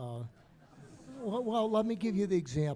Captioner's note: audience murmuring